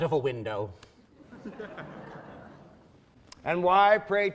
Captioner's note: laughing